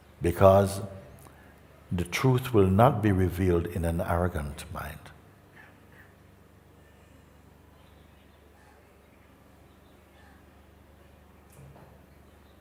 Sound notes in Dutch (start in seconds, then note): 6.7 stilte